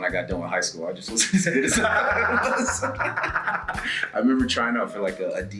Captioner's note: laugh